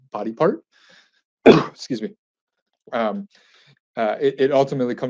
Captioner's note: sneezes